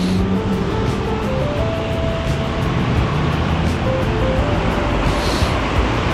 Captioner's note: wind Blowing